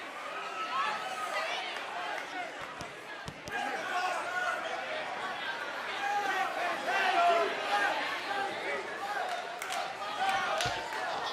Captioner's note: cheers and applause